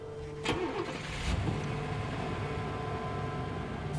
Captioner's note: engine turns over